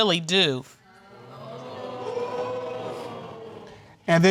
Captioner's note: crowd